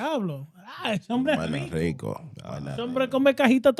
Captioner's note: speaking In Foreign Language